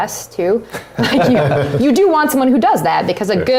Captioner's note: laugh